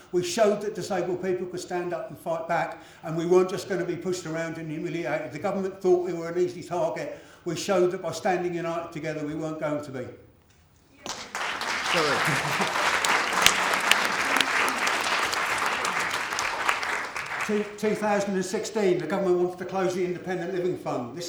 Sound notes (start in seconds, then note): 11.0 applause